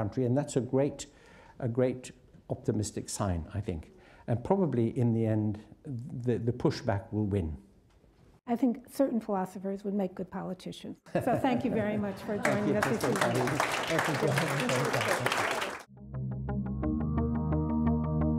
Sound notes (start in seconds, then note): 12.2 applauding; 16.1 gentle music